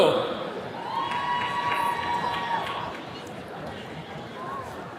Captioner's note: attendees cheering